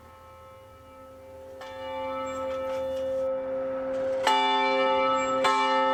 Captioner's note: church bell gonging